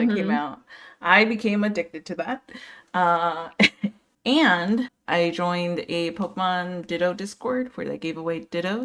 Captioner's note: laughs